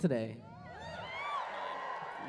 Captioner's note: cheering